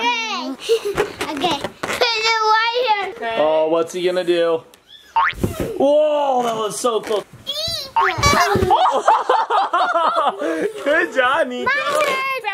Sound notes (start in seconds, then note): 5.2 "boing" sound effect; 7.9 various foley sound effects; 8.0 parents laugh